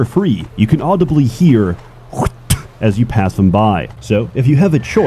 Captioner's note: polish Spitting